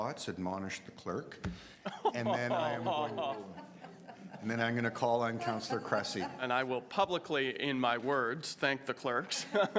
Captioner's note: laughter